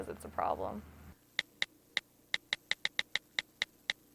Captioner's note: phone clicks